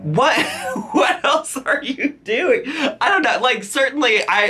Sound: laughs

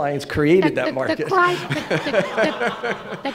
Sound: laughter

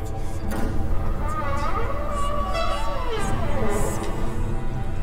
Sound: door creaking

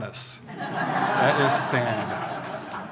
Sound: audience laughing

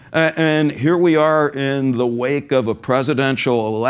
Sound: none

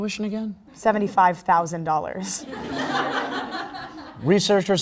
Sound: crowd Laugh

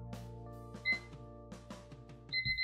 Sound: alarm beeps; alarm rings

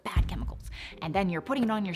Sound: booming sound

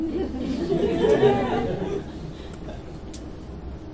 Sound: laughing

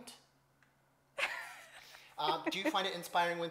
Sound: laughs

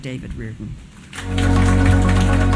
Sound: clapping

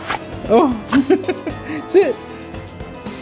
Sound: laughs

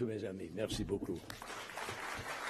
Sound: applause

